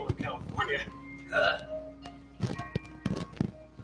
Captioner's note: scoughs